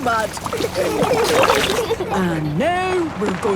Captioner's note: giggling